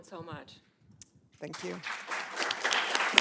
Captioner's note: applause